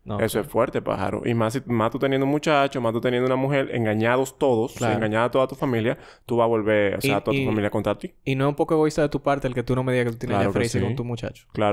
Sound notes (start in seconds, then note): none